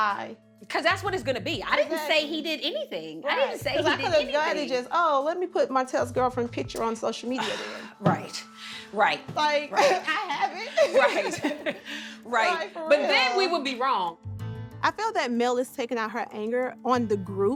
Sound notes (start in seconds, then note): 7.4 sighs; 9.8 chuckling